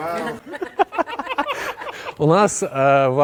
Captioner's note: general laughter